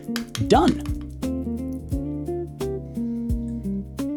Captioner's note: sizzling